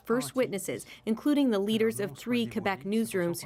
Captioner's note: speaking French